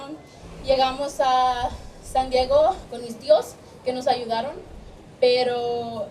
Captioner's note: speaking in foreign language